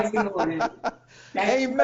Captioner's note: laughing